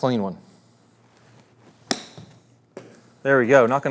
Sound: golf ball thumps

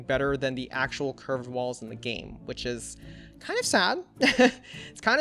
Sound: laughs

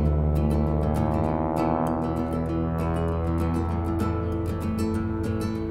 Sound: aircraft engine roaring

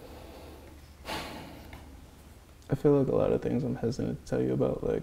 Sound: sighs

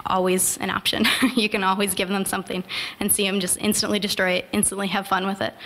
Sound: chuckle

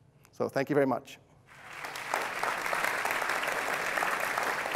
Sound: applause

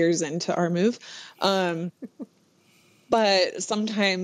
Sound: laughs

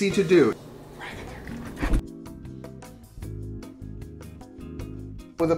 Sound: whispers to dog

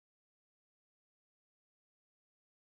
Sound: none

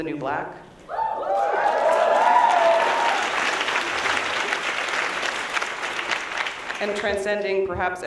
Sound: applause

